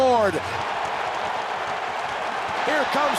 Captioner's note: crowd cheering